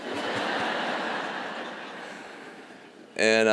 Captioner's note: laughter